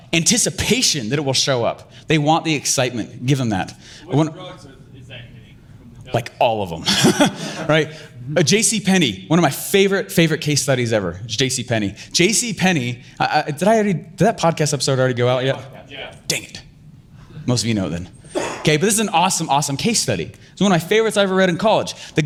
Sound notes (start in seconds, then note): 6.8 laughing